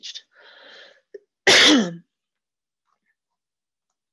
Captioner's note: coughing